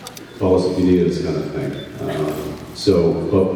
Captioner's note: none